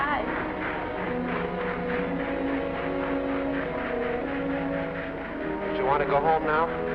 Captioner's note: gentle music; train chugging